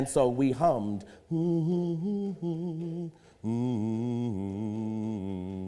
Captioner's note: humming